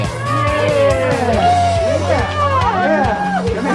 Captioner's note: people cheer